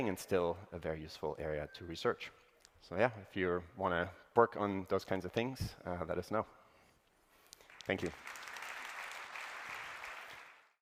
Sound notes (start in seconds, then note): 7.6 applause